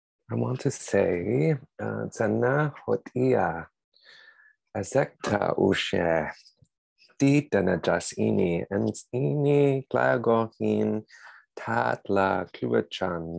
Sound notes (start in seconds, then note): 1.8 speaking tahltan language